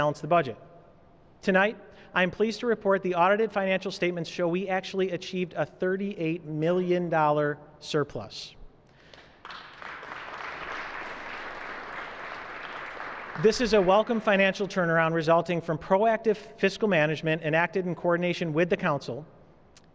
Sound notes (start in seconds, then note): 6.7 applause